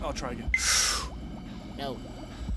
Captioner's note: inhales